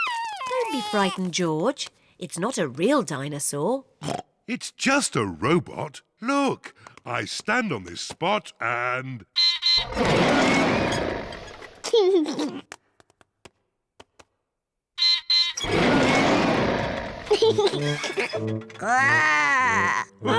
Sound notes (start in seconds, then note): 4.0 oinks; 9.7 beeps and roars; 11.8 laughs; 14.9 beeps and roars; 16.7 laughs; 18.8 growls